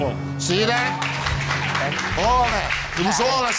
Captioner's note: audience clapping